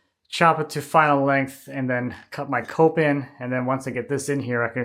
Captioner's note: none